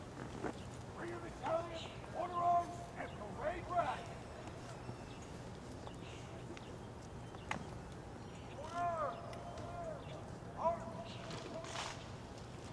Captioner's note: shouted commands